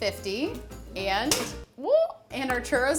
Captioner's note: pans clang